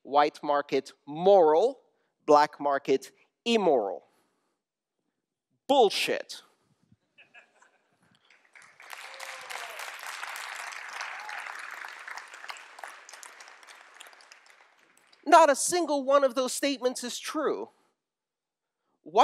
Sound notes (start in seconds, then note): 7.1 laughter; 12.1 applause